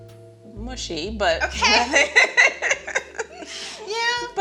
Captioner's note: both laughing